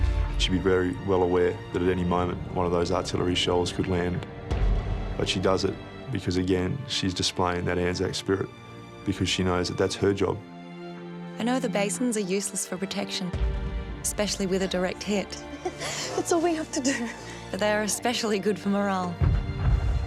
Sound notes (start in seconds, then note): 15.3 laughing